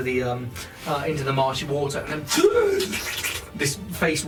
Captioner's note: gasps